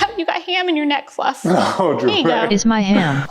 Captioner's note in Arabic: ضاحكًا